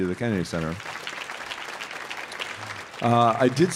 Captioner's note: audience applauding